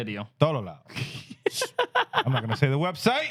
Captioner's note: laughing